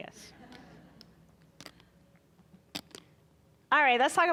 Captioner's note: audience chuckling